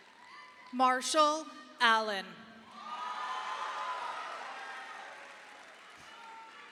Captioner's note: audience applauding